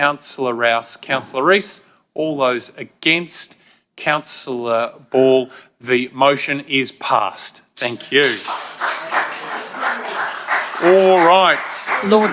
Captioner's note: applause